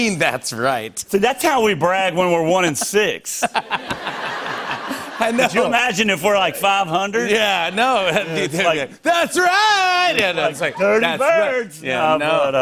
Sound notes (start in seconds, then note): 3.3 laughter